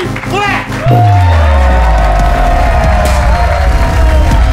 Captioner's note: cheers and applause